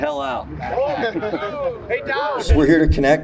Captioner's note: group laughing